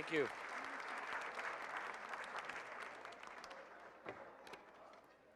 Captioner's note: audience applauding